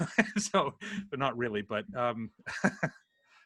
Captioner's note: laughs